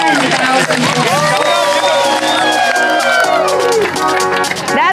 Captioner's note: crowd cheering